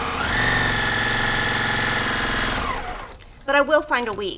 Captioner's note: machine whirring